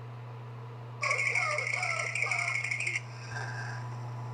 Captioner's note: coughs